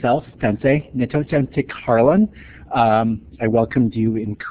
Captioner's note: speaks in Native language